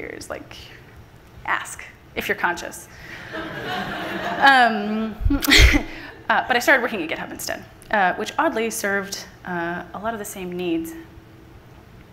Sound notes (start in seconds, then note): 3.2 audience laughing